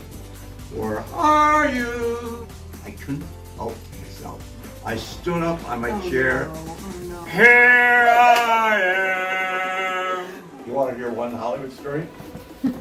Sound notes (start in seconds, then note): 7.2 bellows; 10.4 laughs